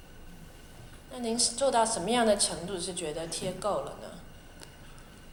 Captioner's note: Mandarin